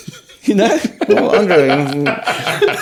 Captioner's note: laughing